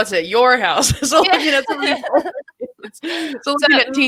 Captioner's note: laughing